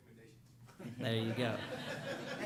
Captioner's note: laughter